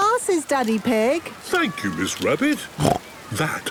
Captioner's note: snorts